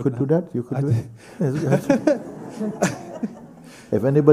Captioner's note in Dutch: gelach